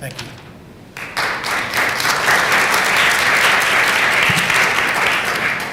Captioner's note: applause